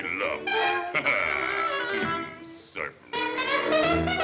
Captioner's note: Sinbad chuckles; dramatic music